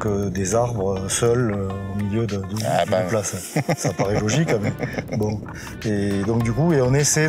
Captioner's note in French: rires